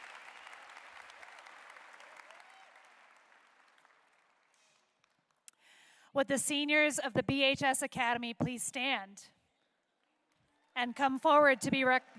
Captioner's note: applause